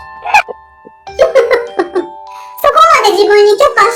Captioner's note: laughs